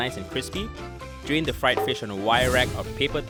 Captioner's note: voiceover